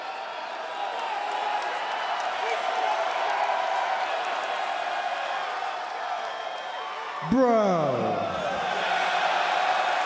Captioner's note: crowd cheering